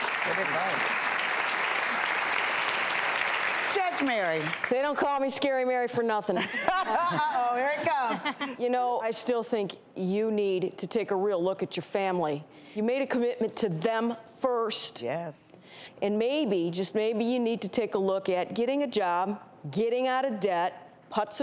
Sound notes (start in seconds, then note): 0.0 audience clapping; 6.4 laughs